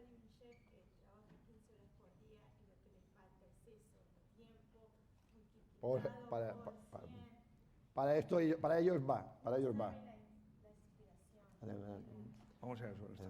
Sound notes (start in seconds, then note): 9.0 speaking spanish